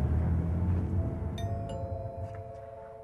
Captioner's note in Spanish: sonido timbre